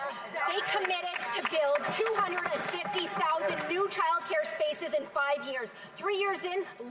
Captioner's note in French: voix de l'interprète